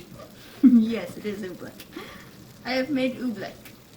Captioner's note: giggles